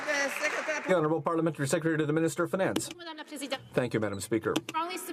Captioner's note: some Applause